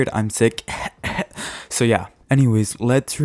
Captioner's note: fake coughs